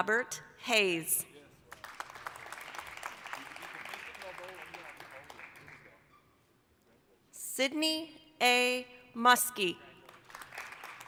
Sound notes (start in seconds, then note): 1.6 applause